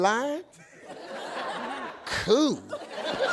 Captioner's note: audience laughs